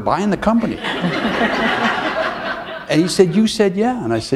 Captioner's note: laughter